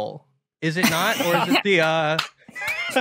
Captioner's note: Ella and Tom Scott laugh